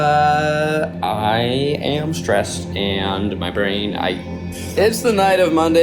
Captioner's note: sighs